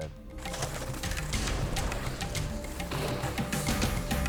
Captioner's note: body thudding